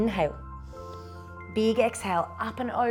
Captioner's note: inhales